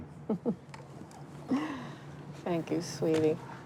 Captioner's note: mother laughs